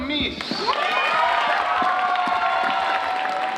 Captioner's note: applause